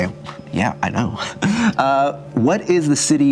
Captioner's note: laughing